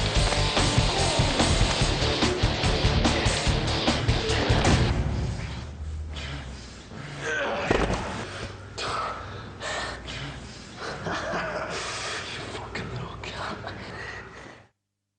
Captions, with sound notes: - (laughs) Fucking look, yeah.